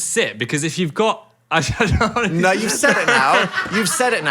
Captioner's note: laughs